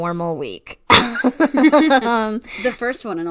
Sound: laughs

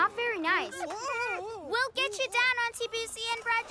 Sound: shrieking

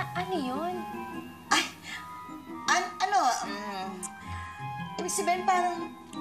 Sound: stutters

